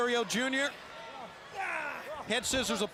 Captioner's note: crowd cheering